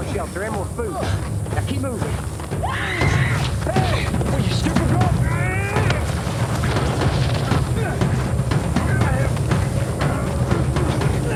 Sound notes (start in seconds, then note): 2.5 screams